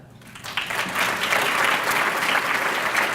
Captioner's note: applause